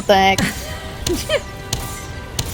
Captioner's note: cackles